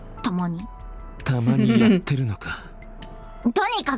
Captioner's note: chuckles